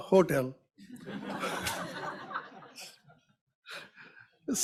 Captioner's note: audience laughs